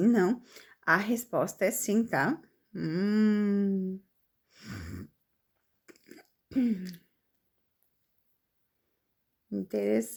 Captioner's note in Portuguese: limpando a garganta